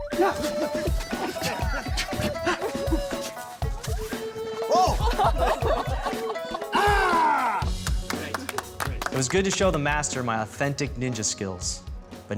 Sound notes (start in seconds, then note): 4.7 laughter; 7.7 applause